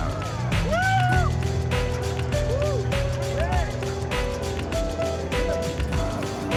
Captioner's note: people cheering; upbeat music